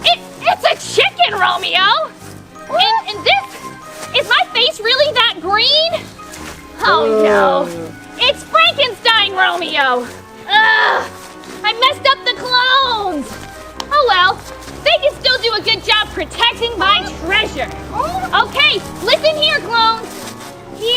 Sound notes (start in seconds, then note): 10.4 groans